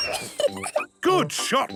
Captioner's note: giggles